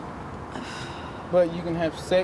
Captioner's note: sighs